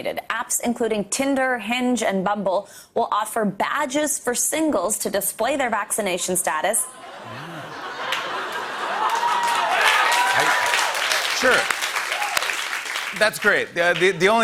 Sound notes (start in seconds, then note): 6.8 laughter; 8.9 cheers and applause